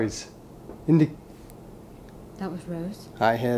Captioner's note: gentle tapping